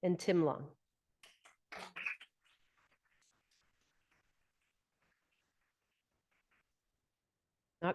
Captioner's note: audience applauding